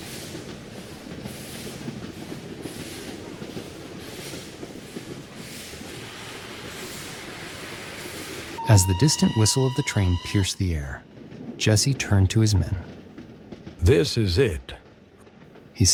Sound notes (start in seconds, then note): 5.4 steam continues chuffing; 8.5 train whistles